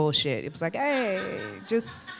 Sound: audience laughs

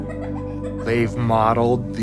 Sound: Mateo laughs

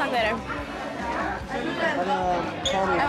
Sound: people chattering

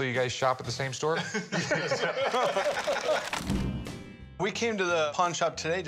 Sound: laughing

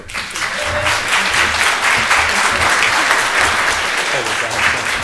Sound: audience applauds

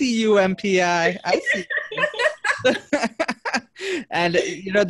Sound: everyone laughing

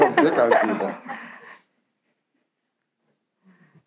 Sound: laughing

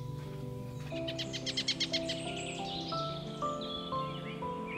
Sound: birds chirp

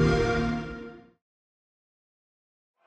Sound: xbox whoosh

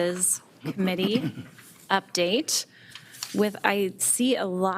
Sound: attendee clears throat

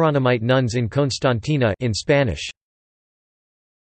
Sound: in Spanish; in Spanish

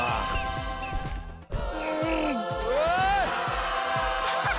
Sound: grunting

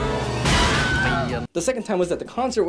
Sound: construction workers scream

